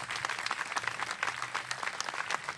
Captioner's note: applause